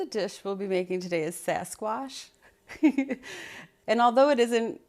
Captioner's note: laughs